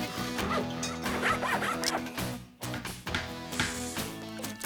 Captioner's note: engine Running; sawing; hammering